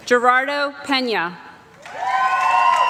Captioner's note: applause